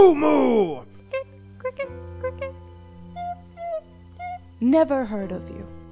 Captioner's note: ⟡ Hyper Realistic Cricket Sound ⟡